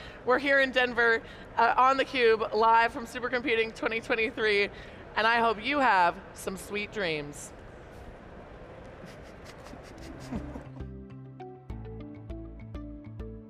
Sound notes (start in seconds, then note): 9.0 chuckling; 9.9 bright music